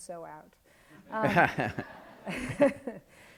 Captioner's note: laughs